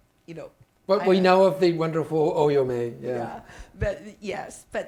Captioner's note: speaking Chinese